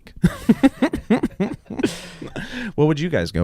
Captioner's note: laughing